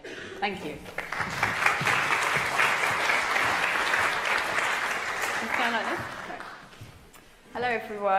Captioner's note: applause